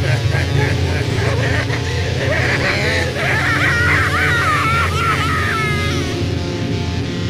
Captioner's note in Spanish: Se Ríe